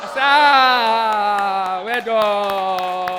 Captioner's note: audience cheers